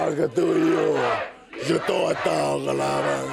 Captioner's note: speaking in foreign language